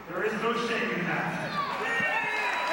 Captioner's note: crowd cheering; crowd chatter